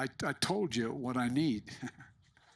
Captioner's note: laughter